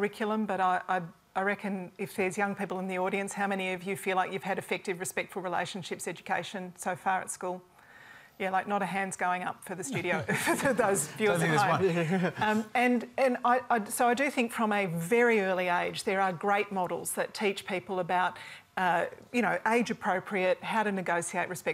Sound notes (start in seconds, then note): 11.7 laughter